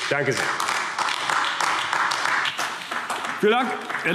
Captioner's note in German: Beifall AfD